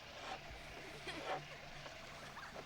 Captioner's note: girls laughing